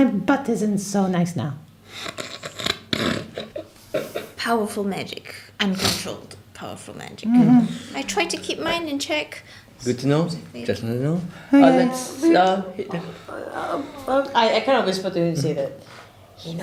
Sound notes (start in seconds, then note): 1.9 snorts